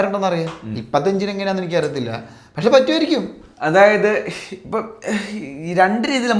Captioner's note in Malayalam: പൊട്ടിച്ചിരി